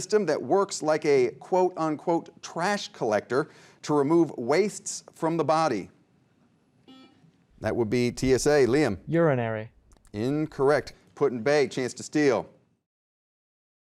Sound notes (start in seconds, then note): 6.9 beep